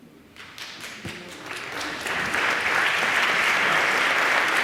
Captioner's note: audience applauding